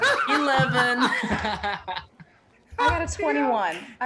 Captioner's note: group laughing